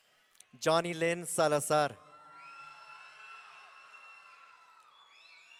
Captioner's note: audience cheering